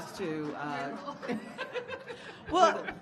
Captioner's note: audience laughing